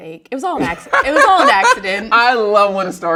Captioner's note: laughs